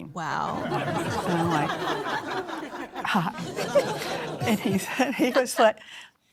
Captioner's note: audience laughing